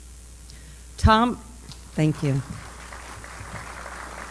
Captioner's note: applause